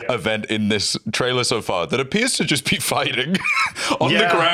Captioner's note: laughs